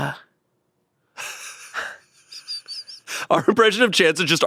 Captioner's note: laughs